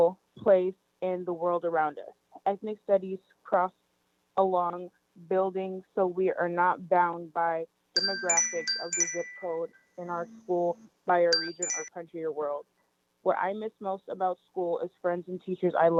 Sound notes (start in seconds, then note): 8.0 chime